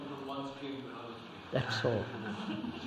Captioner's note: laughter